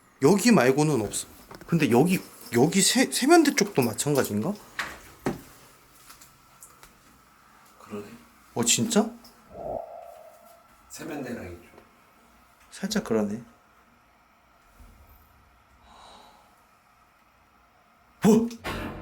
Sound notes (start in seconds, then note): 15.8 exhalation